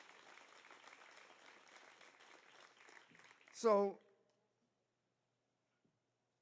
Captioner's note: applause